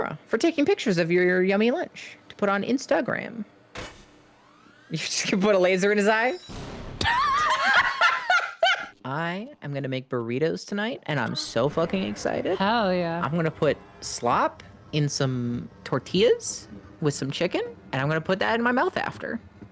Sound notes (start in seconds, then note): 3.7 laughs; 6.4 explosion; 7.0 both laugh